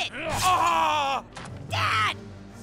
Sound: screaming painfully

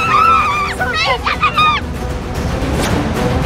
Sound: screaming

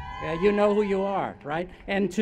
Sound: cheers

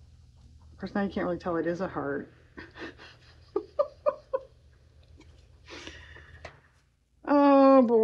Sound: laughs

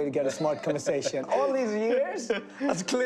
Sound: laughing

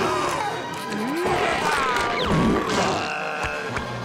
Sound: groaning

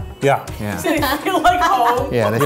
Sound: laughing

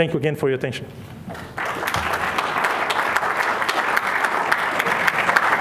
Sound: applause

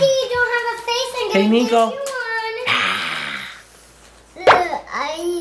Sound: roars; pop sound effect

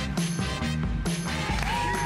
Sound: applause

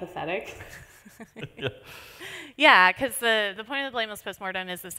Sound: laughs

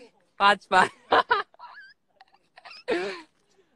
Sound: savage evil laugh

